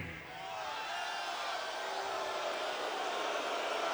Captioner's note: crowd jeering